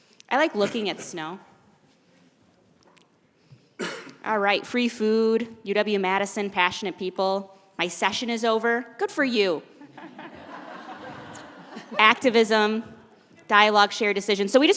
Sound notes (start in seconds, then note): 9.9 laughing